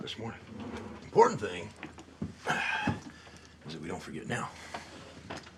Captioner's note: sighs